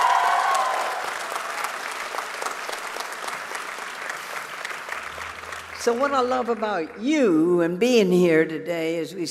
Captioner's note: cheers